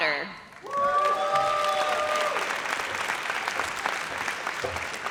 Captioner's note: audience cheers